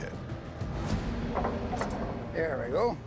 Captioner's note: machine whirring